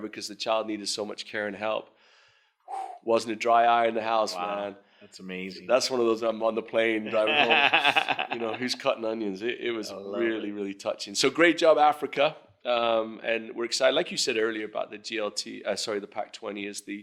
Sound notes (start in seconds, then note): 7.1 laughing